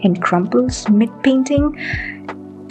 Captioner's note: deep breath